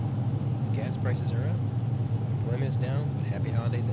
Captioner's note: radio Announcer